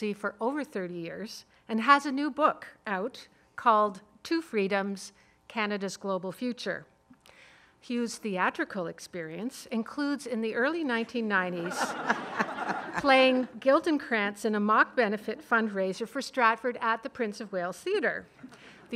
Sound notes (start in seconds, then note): 11.6 audience laughing